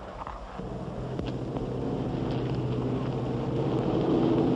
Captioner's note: engines rumble